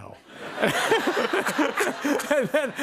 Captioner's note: laughter